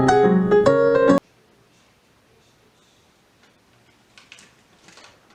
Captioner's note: TV noises